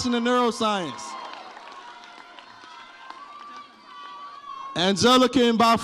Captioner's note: audience cheers